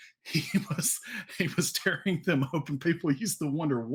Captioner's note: laughs